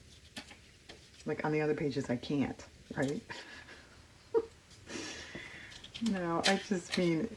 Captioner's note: laughs